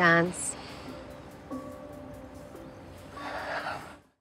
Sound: sighs

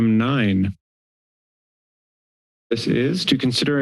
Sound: silence

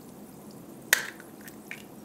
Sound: pop

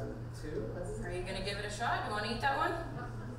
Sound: voiceover

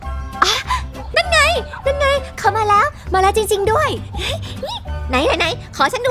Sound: giggles

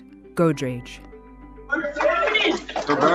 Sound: cheering

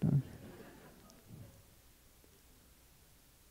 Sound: laughter

